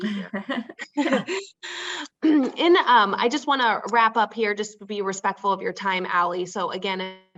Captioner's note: clears throat; laughs